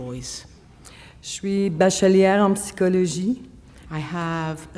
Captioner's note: speaking French